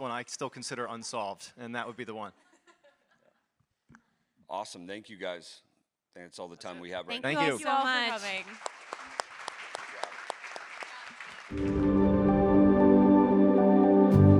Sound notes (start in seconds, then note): 7.9 audience applauds; 11.6 upbeat music